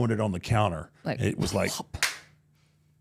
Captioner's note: clap